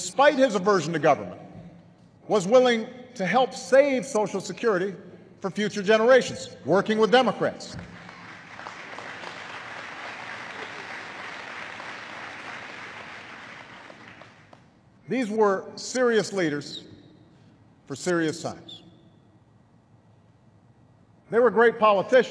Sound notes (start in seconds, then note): 7.8 applause